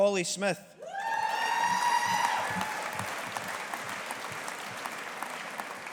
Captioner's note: audience applauding